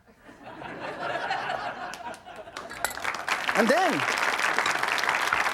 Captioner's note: audience laughs and applauds